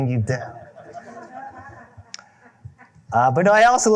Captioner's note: laughter